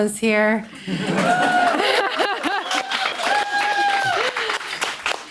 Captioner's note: audience applauding